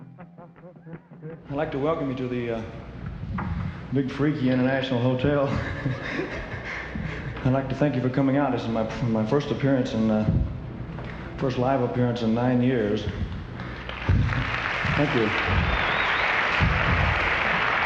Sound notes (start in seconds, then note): 0.0 faint rock music; 0.3 audience cheering; 5.0 laughing; 13.2 audience applauding